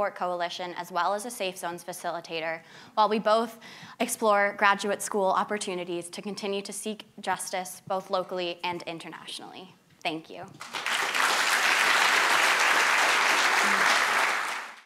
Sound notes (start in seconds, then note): 10.6 applause